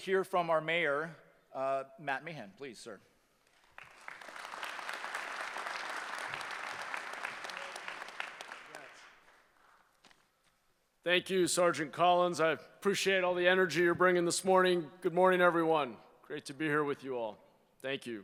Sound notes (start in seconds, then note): 3.5 applause